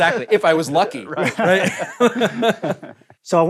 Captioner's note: laughing